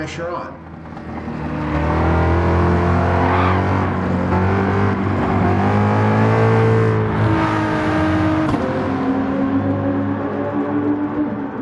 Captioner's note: engines revving, cars noises